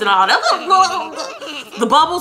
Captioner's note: mimicking underwater giggling